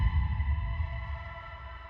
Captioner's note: boom echoes; muffled shouting